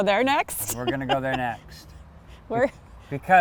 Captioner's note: laughs